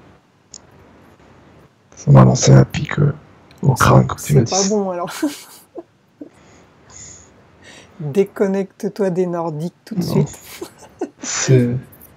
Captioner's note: breathing; laughs